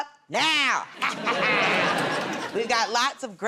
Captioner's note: laughter